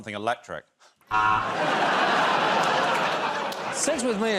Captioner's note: laughter